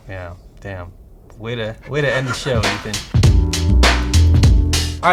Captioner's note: laughter; smooth upbeat music